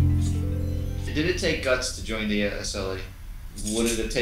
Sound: voiceover

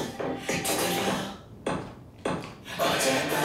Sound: knock, knock, knock

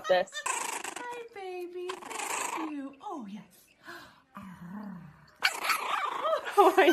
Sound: purrs

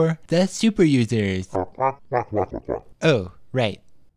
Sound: squawking

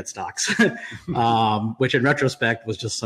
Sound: laughs

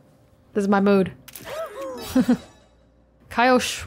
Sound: chuckles

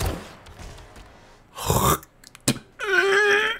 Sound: grunting; spitting noises

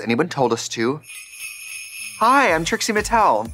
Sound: sleigh bells jingling

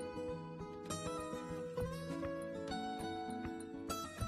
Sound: tap

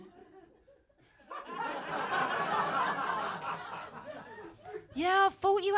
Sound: laughter

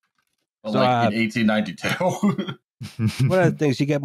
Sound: chuckles softly

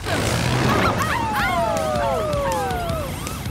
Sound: howling

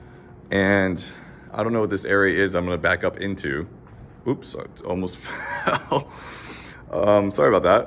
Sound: laughs

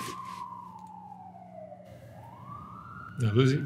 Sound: siren wailing

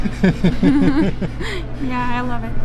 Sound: laughing

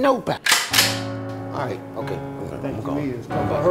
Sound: gun cocks

